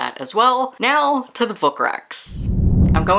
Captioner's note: whoosh